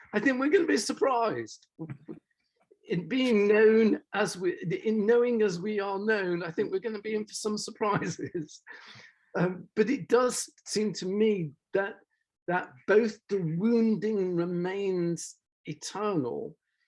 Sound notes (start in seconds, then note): 9.2 laughs